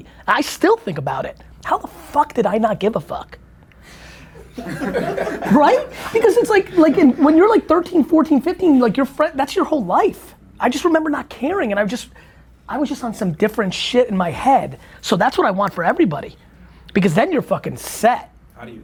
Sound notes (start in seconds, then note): 3.8 group laughter